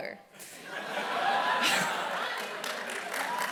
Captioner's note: laughter